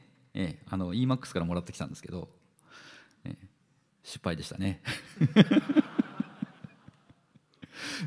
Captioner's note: crowd laughs